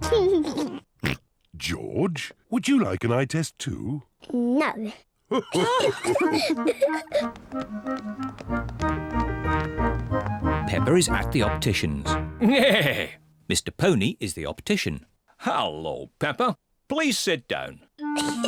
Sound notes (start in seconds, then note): 0.0 laughs; 0.1 laughs, snorts; 5.3 all laugh; 12.8 neighs; 18.1 laughs